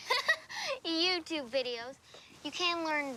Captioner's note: laughing